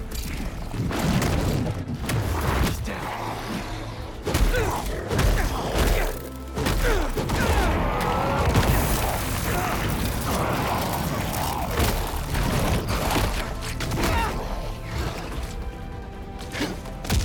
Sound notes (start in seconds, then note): none